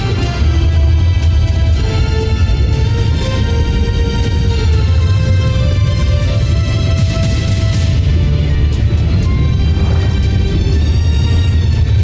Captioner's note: whooshing & swirling; swooshing & swirling